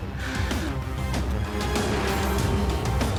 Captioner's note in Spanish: exhala